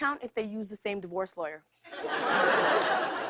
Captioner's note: laughter